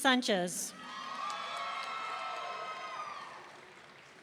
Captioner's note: audience cheering